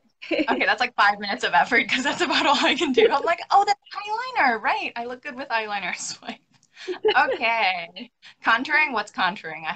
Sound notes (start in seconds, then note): 6.8 both laughing